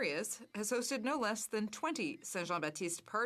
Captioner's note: speaking French